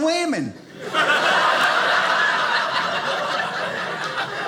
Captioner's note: audience laughing